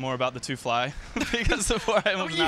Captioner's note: laughter